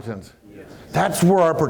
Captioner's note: murmurs